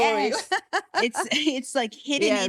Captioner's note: laughing